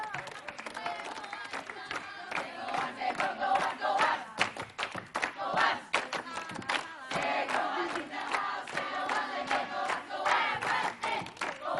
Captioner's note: audience chanting